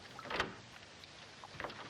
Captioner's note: door opening